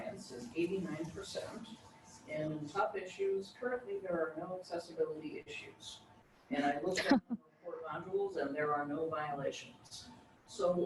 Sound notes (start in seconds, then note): 6.9 laughs